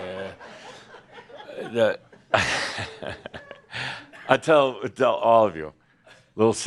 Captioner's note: chuckles